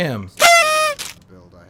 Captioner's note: confetti surprise sound